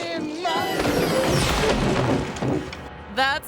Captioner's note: playful music; person thuds